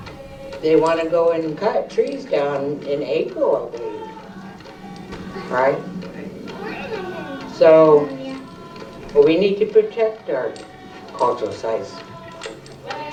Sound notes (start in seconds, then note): 6.0 chatter; 12.9 chanting